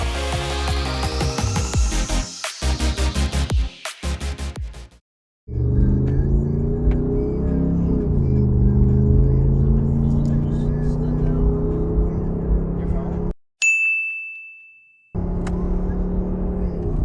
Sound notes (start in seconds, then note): 0.0 bright upbeat music; 5.5 car engine roaring; 13.6 bell chiming